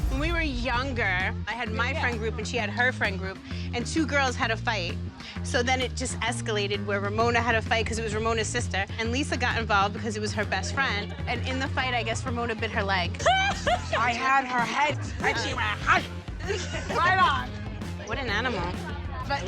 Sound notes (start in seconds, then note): 13.2 laughing